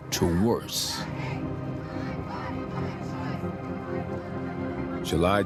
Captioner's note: muffled chanting and shouting